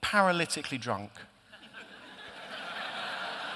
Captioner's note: laughter